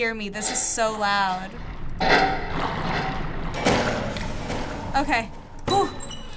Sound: metal clanging

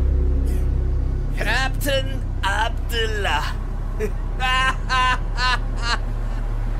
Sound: laughing

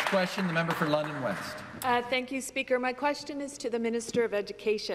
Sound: some Applause

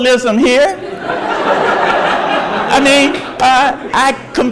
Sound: audience laughs

